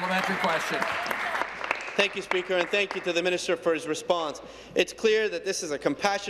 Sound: applause

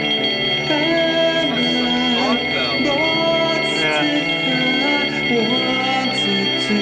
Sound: alarm bells ring

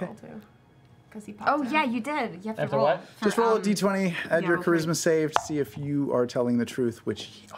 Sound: whispering

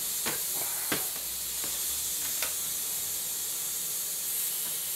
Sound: tool hissing continues

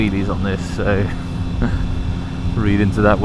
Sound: chuckle

